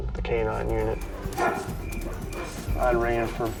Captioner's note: barking